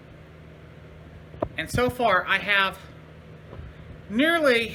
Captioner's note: none